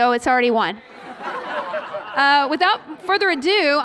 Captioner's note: laughter